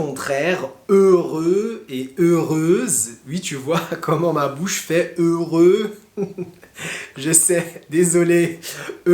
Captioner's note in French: rires